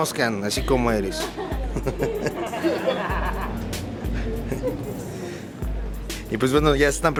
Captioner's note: laughter